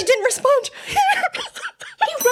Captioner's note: crying